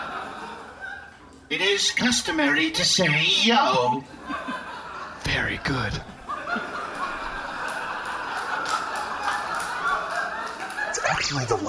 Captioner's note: whispering